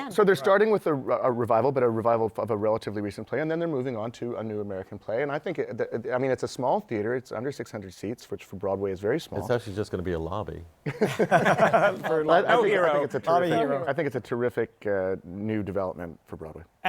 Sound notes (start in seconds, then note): 10.8 laughter